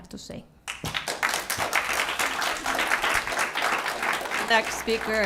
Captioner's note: applause